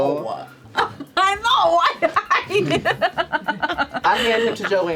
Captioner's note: laughs